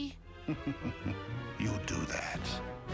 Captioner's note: sinister laugh